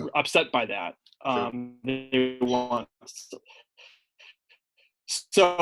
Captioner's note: voice breaking up